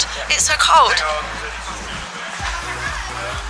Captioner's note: mumbles about waiting